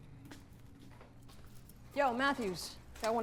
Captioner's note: footsteps